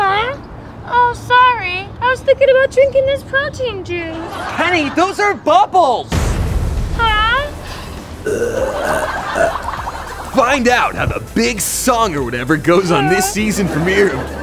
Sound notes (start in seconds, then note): 8.2 Penny burps